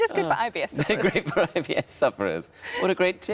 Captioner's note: laughs